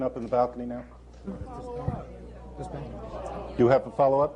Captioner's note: chatter